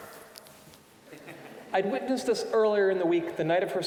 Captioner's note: audience chuckling